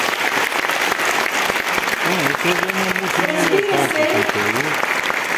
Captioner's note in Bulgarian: аплодисменти